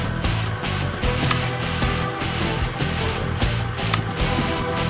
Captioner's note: upbeat energetic music; gunfire popping